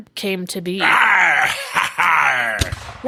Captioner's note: cannon fire